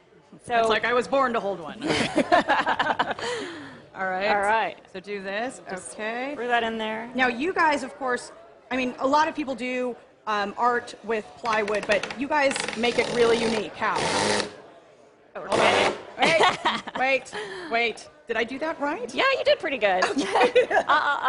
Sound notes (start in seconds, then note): 16.2 laughter